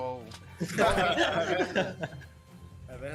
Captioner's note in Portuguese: todos riem